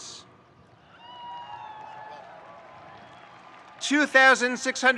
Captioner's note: audience cheering and applauding